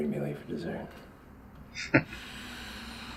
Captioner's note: chuckling